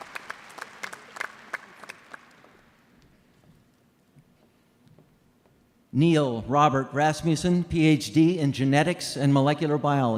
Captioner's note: applause